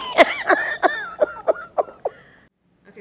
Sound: laughter

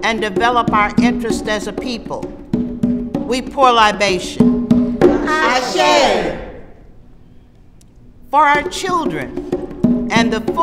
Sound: voices respond

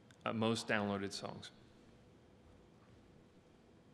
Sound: silence

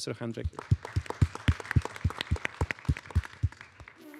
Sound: applause

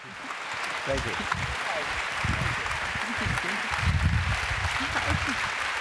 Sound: applause

